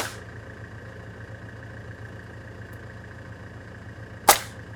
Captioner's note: nail gun shooting